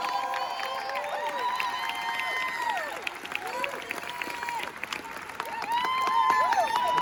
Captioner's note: cheers and applause